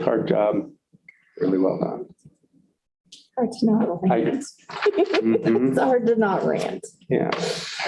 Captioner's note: laughter